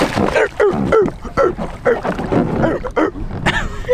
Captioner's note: makes seal noises